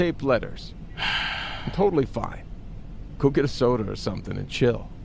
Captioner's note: breathing heavily